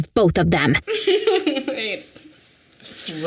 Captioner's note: Sadie chuckles